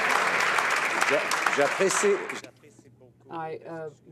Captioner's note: some Applause